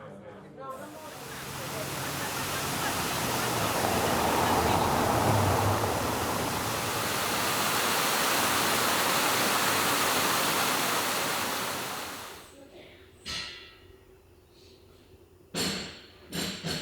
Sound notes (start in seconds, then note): none